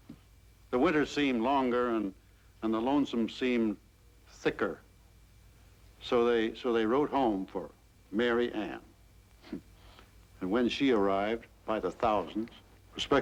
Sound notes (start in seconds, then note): 9.4 huffs